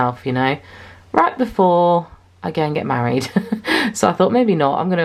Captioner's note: laughs